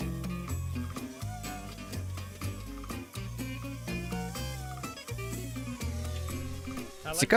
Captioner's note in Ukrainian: запальна латиноамериканська музика; дзижчання двигунів робота